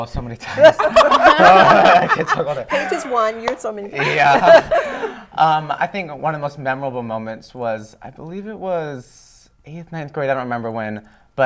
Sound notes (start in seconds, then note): 0.4 laughter